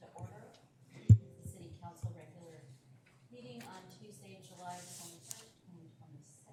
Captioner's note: gavel